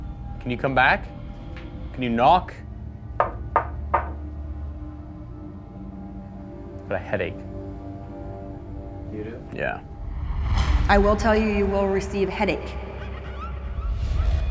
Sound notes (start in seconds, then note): 3.2 knocking; 4.6 suspenseful music playing; 12.7 suspenseful music playing